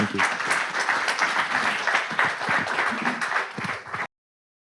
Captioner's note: audience applauding